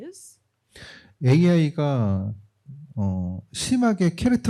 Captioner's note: speaking korean